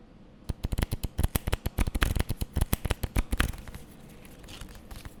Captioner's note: cards flapping